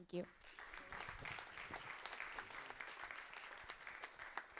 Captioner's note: audience applauding